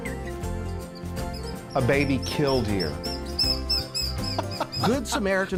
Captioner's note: laughs